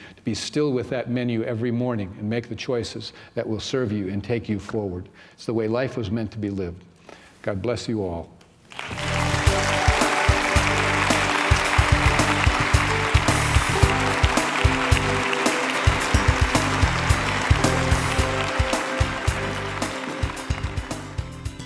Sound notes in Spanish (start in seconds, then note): 8.7 aplauso